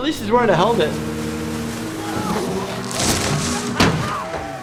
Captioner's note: boat engine roaring